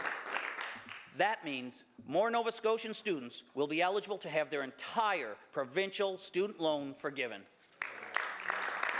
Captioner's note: some Applause